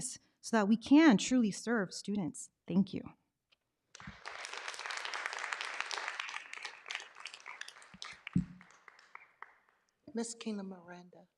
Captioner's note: clapping